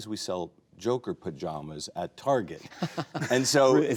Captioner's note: laughing